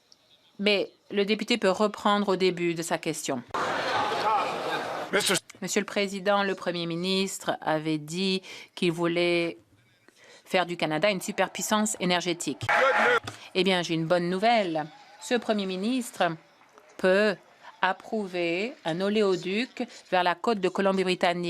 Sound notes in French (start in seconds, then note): 0.0 voix de l'interprète; 8.1 voix de l'interprète